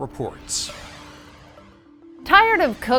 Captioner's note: logo whooshing